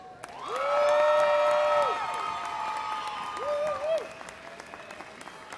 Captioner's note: explosive cheers and applause